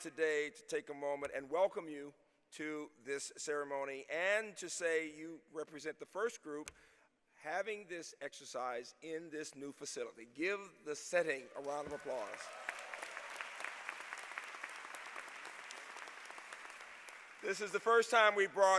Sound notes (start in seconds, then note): 11.6 applause